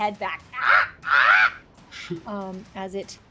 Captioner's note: bird squawks